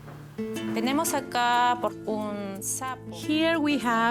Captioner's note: speaking Spanish